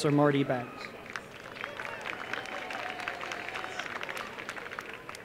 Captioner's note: applause